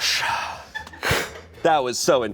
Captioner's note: exhaling